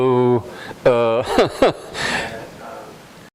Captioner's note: laughter